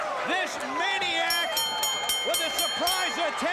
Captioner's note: bell ringing